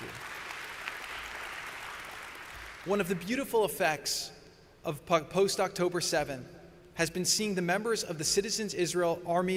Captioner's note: applause